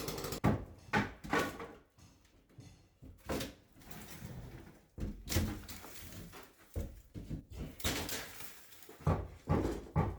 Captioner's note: wood splintering